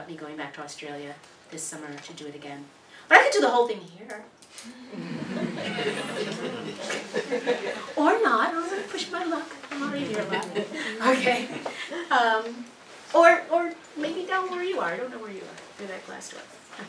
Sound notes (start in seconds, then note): 4.7 laugh